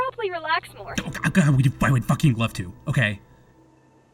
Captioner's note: stuttering